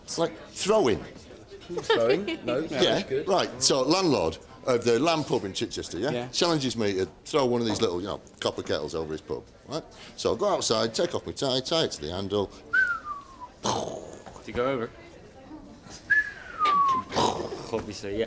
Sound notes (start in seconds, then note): 12.5 whistles with explosion at the end; 16.0 repeats whistle